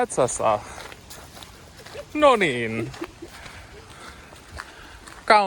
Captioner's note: wife giggling